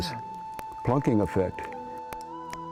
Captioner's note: sound of popping